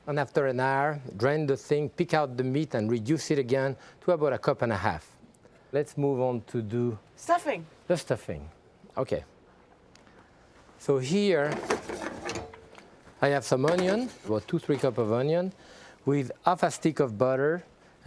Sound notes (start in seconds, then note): none